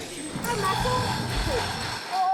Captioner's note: snoring